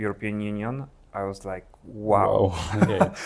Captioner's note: laughs